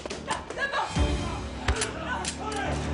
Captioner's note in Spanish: Quejido